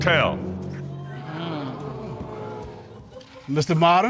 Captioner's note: audience gasp